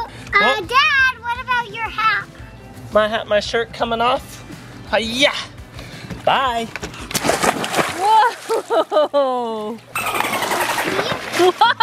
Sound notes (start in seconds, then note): 7.1 splash; 9.8 dolphin noises